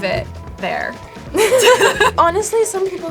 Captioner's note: both laugh